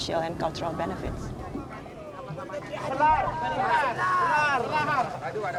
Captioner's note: all speaking Austronesian language